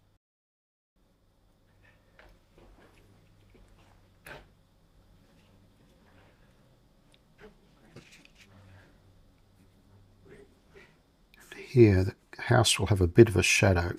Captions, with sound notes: (scraping) Here, the house will have a bit of a shadow.